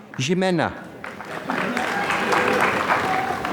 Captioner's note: applause